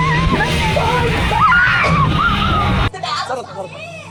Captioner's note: wailing